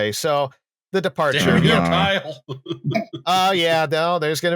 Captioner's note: laughing; chuckles